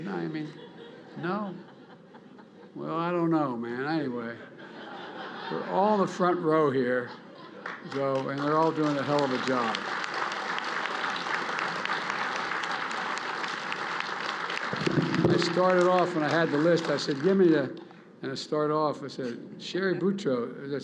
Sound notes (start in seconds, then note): 1.2 laughter; 10.3 applause